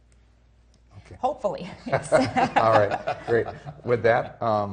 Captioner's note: laughing